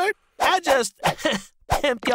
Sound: chuckles

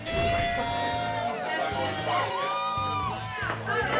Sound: crowd cheering

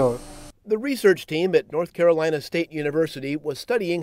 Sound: voiceover

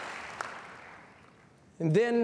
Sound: cheers and applause

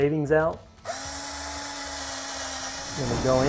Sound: drilling sound

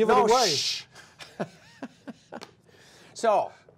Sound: laughter

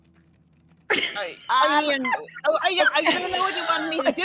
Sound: all laughing

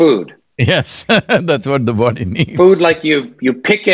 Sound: laughs

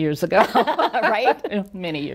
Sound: both chuckling

